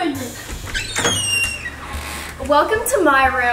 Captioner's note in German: Tür quietscht auf